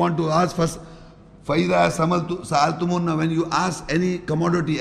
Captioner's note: Arabic